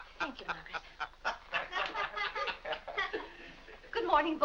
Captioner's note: boys and Mr. Day laughing